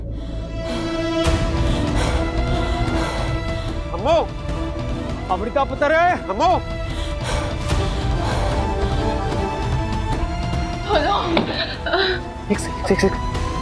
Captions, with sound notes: Amu! - Amrita! - Amu! [laboured breathing] Open! Hang on.